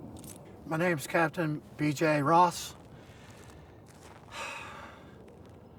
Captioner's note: sighs